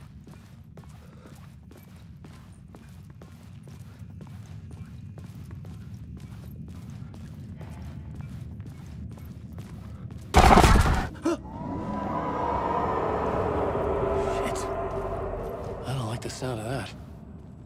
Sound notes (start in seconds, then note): 10.4 gun firing; 11.0 gasping